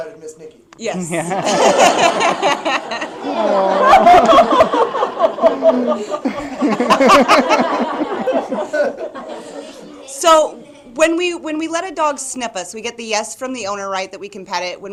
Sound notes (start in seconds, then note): 1.1 laughter